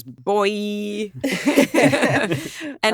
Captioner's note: all laughing